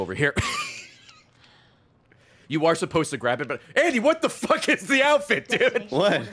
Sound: laughs

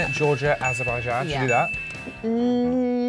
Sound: bell dings thrice

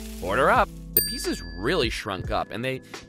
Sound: dings

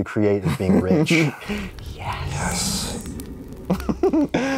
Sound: whispers; laughs

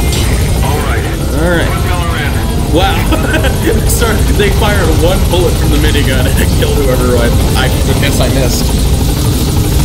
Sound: chuckle

